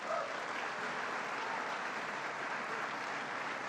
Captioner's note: applause